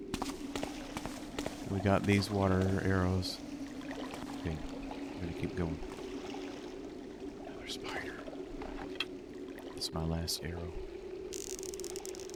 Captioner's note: whispers